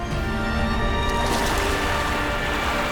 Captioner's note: sloshing